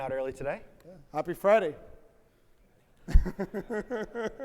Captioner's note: laughs